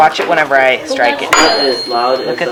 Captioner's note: rings tuning fork